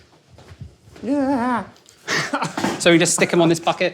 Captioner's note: stammers and chuckles